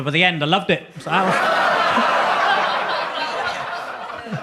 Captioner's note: audience laughs